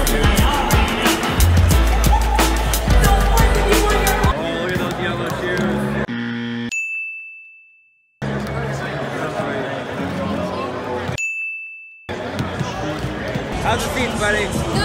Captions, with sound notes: Oh, look at those yellow shoes. (buzzing) (dinging) (dinging) How's your seat, buddy?